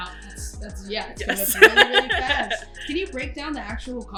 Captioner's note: laughs